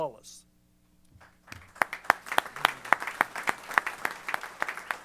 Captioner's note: applause